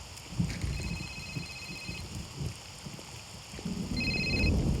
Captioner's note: phone ringing